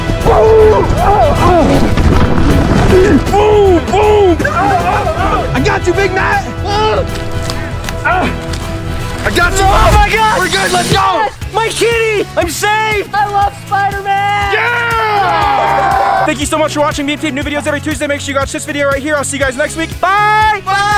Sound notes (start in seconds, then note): 0.2 grunting and groaning; 14.3 crowd cheering